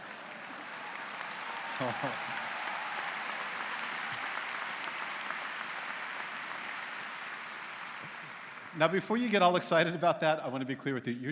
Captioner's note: �applause�